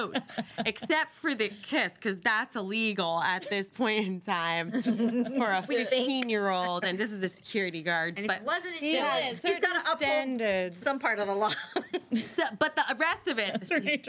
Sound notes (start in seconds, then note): 4.7 girls laughing